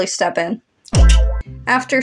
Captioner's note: tongue Click